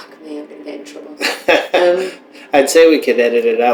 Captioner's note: laughter